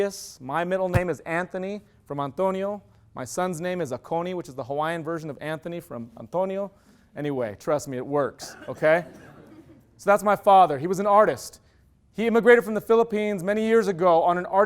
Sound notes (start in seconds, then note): 8.7 laughter